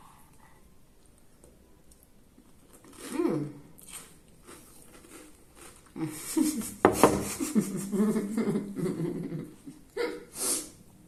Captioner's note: laughing